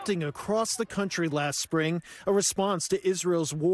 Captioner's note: crowd chanting